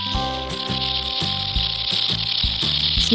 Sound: snake sound

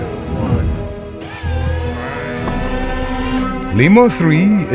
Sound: electric motors

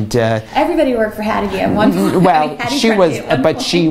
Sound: laughter

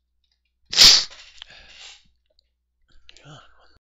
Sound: heavy breathing

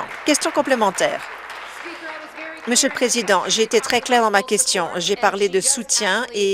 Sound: applause

